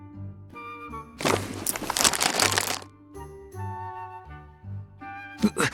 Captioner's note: rustling and jingling noises